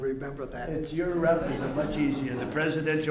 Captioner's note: laughter